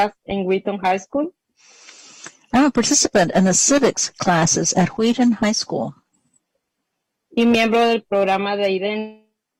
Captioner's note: speaking spanish